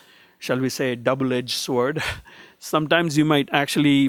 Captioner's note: laughs